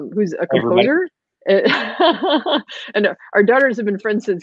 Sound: laughing

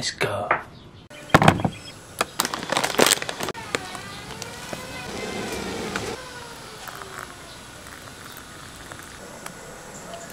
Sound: sounds of breakfast being made

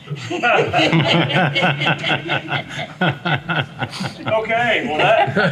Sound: everyone laughs

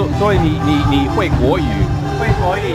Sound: mandarin

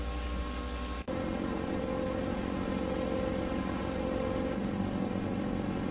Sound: VHS static

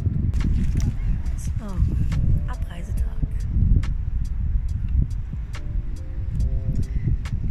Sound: wind

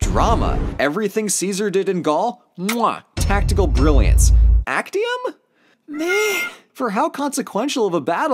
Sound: mwah

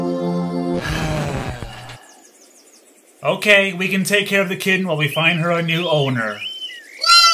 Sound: sighs

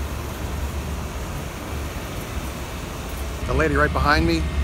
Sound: traffic noise

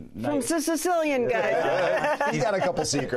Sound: laughs

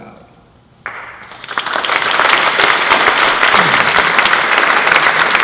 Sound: applause

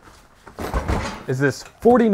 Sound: box thumps

